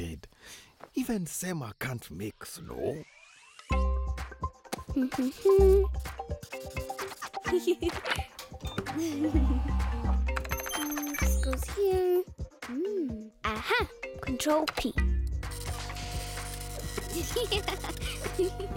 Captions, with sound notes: Even Sema can't make snow. (humming) (giggling) (whirring) - Hmm, this goes here. Mmm, ah-ha! Control P. (giggling)